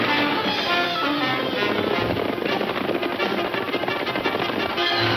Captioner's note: horse hooves pounding